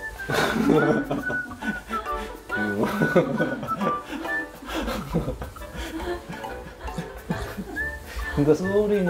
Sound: laughter

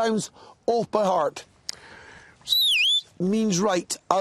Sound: whistles

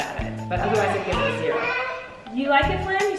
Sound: babbles

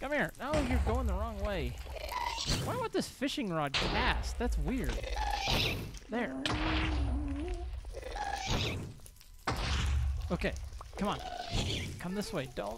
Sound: shrieking and explosions continue

